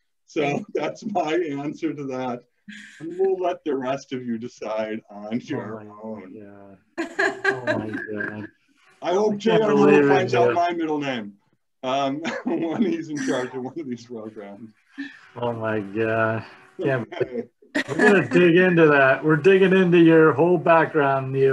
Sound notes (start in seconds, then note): 7.0 laughing